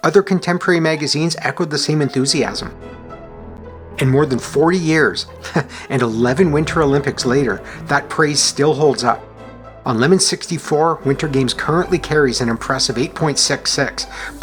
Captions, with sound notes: Other contemporary magazines echoed the same enthusiasm. And more than forty years — [chuckles] and eleven Winter Olympics later — that praise still holds up. On Lemon64, Winter Games currently carries an impressive 8.66,